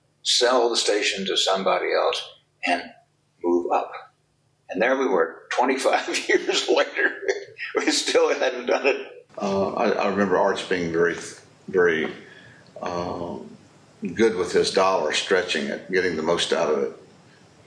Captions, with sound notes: sell the station to somebody else, and move up. And there we were 25 years later [chuckles] We still hadn't done it. Uh, I, I remember Arch being very, very uh... good with his dollar...stretching it getting the most out of it.